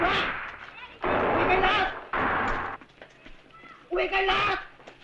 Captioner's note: non-english speech